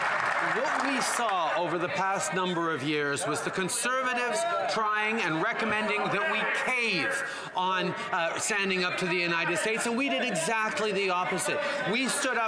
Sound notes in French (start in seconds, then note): 7.8 voix de l'interprète